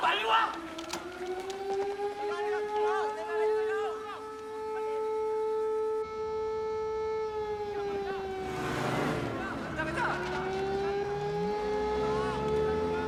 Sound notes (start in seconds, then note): 1.2 shouting Continues; 2.1 alarm Continues